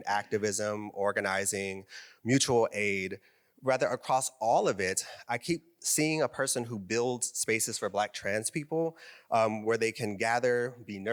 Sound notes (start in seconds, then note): none